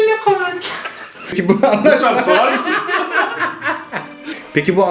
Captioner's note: laughter